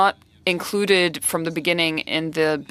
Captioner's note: speaking French